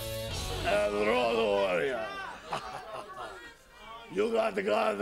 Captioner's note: laugh